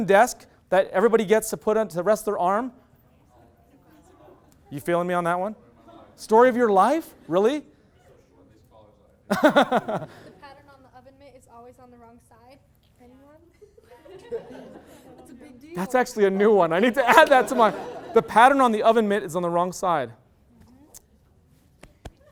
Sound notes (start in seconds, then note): 2.7 murmur; 8.5 murmur; 9.3 loud laughter; 13.6 crowd agreement; 13.8 loud laughter